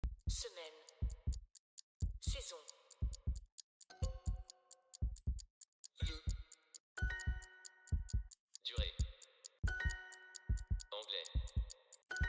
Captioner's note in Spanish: Habla en francés